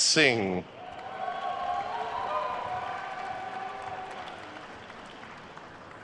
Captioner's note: attendees cheering and applauding